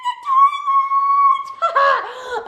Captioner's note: laughing